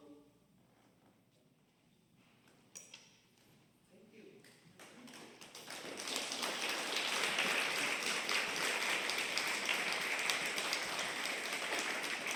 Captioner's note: applause